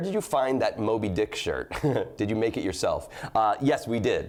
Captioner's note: laughs